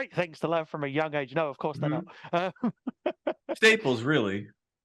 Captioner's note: laughing